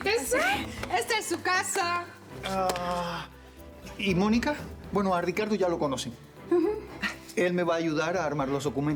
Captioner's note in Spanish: palmadas